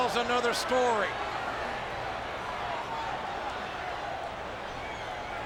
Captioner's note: crowd clamoring